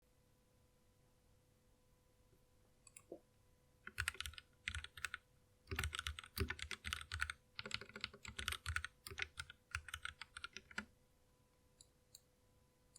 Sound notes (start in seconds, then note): 1.5 amazing Typing Sounds